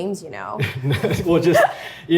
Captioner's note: laugh